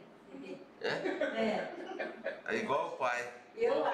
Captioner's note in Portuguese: risos